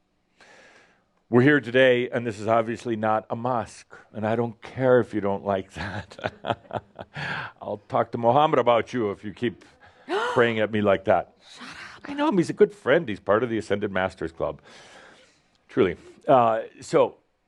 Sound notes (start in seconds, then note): 5.7 chuckles; 9.7 gasps